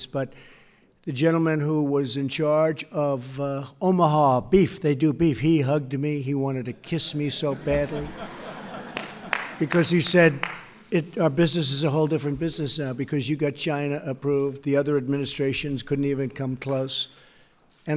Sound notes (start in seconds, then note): 7.3 laughter